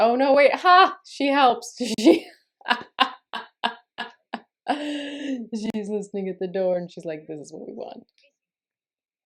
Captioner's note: laughter